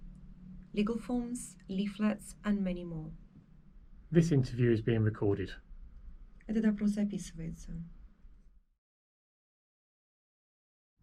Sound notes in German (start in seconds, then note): 6.4 spricht Russisch